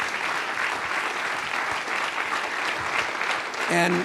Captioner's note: audience applause